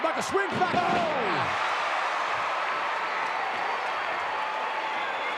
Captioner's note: audience cheering